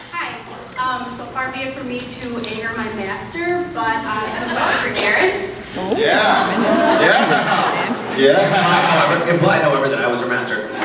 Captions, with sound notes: Hi! Um, so far be it from me to anger my master, but uh, my question’s for Jared. Yeah. [laughs] Yeah! [laughs] Yeah. Implied however -- implied however that I was her master.